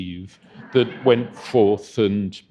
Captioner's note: audience chuckling